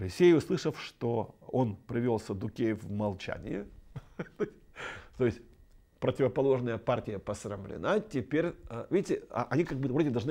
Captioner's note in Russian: смех